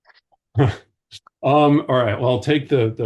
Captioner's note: chuckles